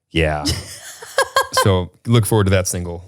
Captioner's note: laughs